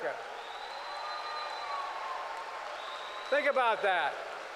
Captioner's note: applause